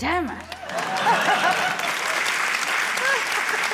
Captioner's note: applause